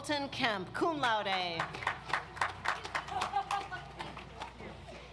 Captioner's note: audience applauds